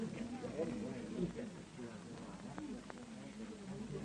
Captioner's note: crowd chattering